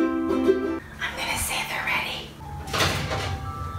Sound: ukulele music; whispers

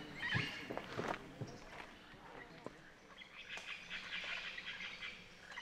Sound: jungle sounds

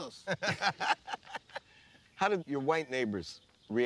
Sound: laughing

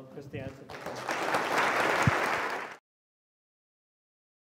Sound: applause

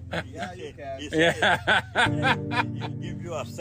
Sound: laughs

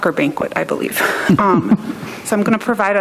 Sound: chuckles

